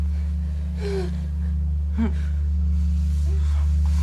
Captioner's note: sexual moaning